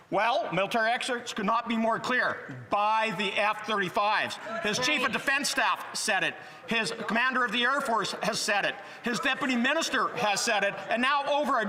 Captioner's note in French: voix de l'interprète